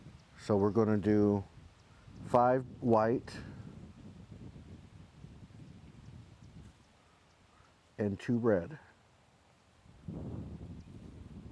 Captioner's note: silence